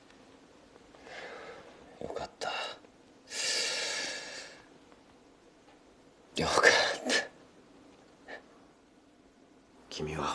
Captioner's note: sighs; inhales sharply